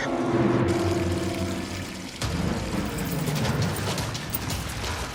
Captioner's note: sound of water pouring into the crawl space